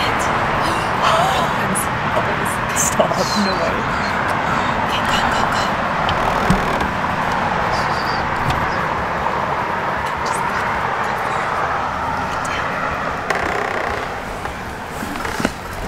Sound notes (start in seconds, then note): 1.4 gasps; 5.8 door creaks